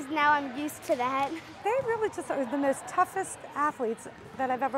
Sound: laughter

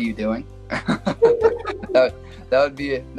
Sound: laugh

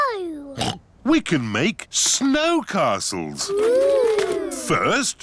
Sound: oinks

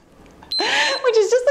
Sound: timer beeps

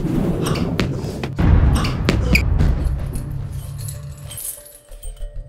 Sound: sound of sound waves; sound of big sound wave

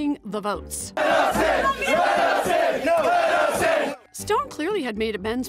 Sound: chants

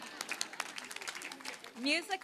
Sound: applause

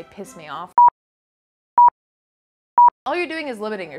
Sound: clock ticking

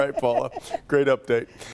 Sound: laughter

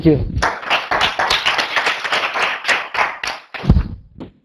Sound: audience applause

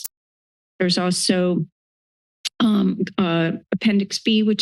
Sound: click of the tongue

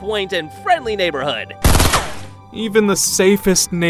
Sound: gunshots bang

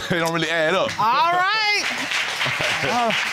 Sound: chuckles; audience applauds

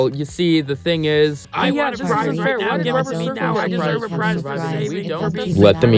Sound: Chargery, Fez and Scarf arguing, overlapping each other

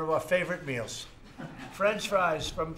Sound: laughter

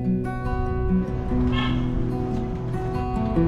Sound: car beeping; upbeat music; wind blowing

